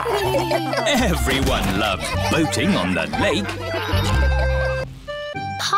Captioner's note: all laugh; chuckles